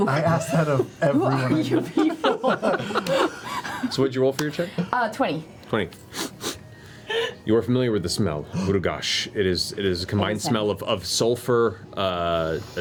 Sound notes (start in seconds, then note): 6.1 sniffs